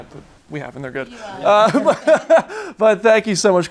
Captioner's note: laughing